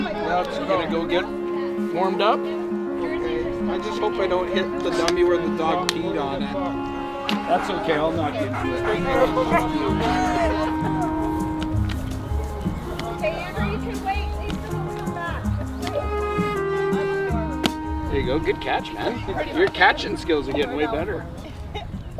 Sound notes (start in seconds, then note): 9.3 dog panting, yelps